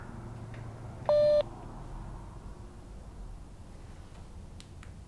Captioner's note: call disconnecting